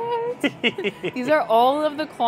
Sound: laughs

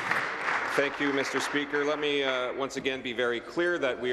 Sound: applause

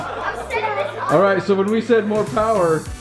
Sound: crowd laughs

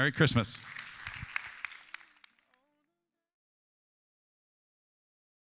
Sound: congregation applauds

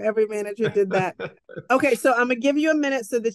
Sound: chuckles

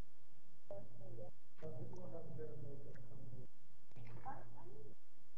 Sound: faint chattering

